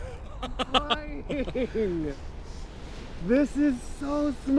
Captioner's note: laughs; skydiver laughs